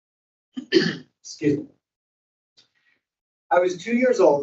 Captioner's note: clears throat